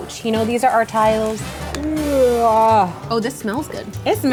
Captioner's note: yawn